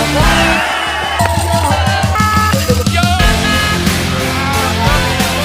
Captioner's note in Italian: Applauso